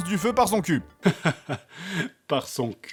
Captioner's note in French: rire